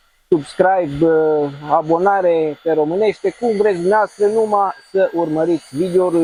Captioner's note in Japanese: ルーマニア語